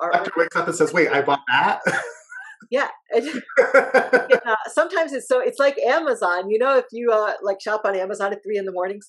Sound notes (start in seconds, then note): 3.2 laughs